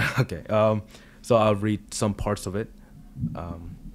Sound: laughs

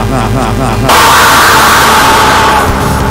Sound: screams

